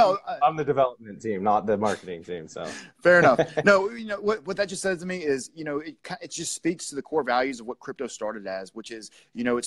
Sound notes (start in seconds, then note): 3.1 laughter